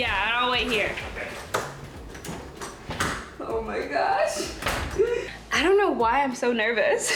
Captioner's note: pops; laughing